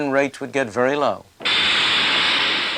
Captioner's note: trainyard sounds